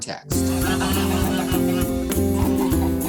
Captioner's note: geese cackling